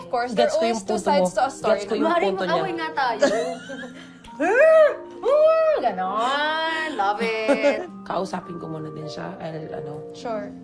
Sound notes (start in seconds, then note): 3.2 chuckles; 4.2 grunts playfully